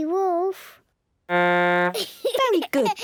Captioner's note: blows horn, giggles